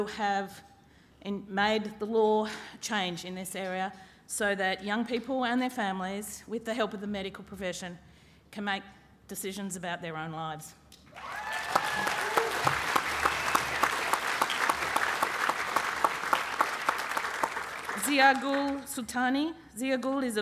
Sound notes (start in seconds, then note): 11.1 applause